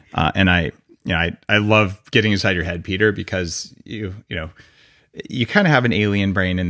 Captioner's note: none